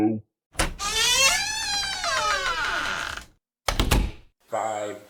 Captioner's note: door opens and shuts